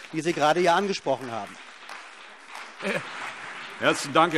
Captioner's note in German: Beifall CDU und BÜNDNIS 90/DIE GRÜNEN